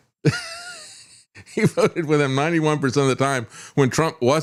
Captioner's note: laughs